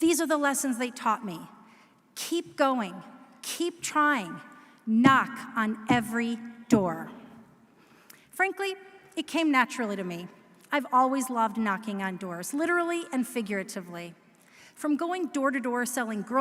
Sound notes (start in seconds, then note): none